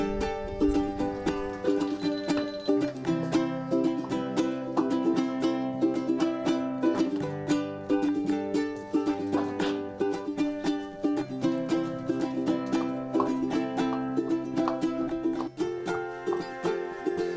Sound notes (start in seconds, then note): 1.4 beeping